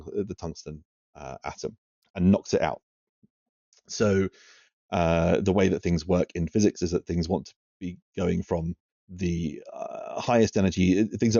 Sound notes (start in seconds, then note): none